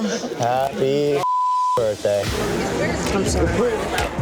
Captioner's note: beep